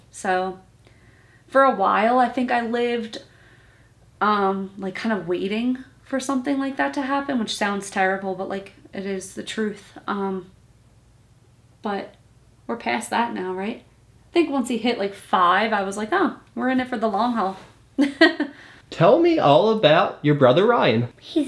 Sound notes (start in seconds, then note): 18.0 laughs